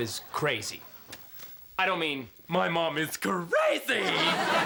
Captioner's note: speaks with lisp; speaking normally